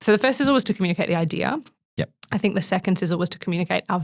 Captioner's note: none